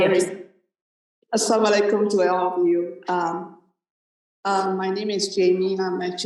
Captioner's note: non-english speech